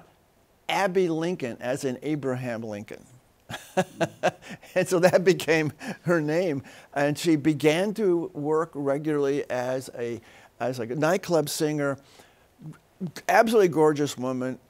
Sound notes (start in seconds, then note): 3.5 laughs